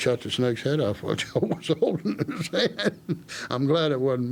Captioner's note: laughing